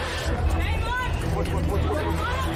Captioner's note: A woman shouts